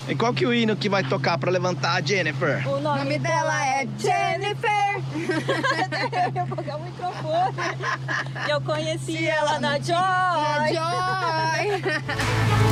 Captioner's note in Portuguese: risadas